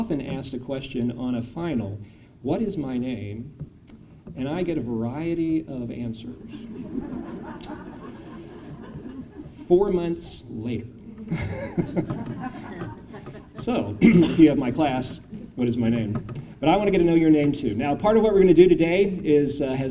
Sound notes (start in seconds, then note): 6.4 laughter